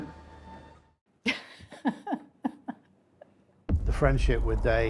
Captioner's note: laughing